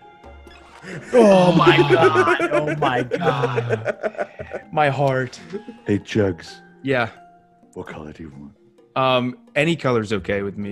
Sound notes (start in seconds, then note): 4.0 laugh